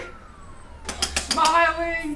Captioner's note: gun hitting picture frame